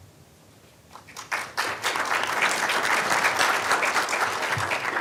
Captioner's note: applause